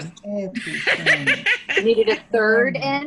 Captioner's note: laughing